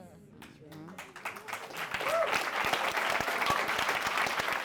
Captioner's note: all clapping